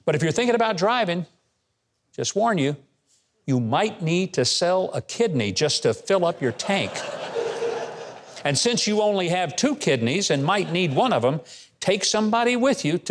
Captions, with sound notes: But if you're thinking about driving, just warn you, you might need to sell a kidney just to fill up your tank. (audience laughing) And since you only have two kidneys and might need one of 'em, take somebody with you